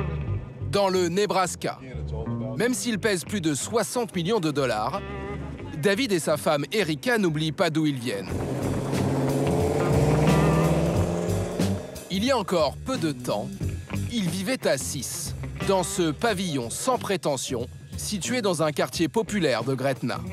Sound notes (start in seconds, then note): 8.2 engine revs; 10.9 upbeat music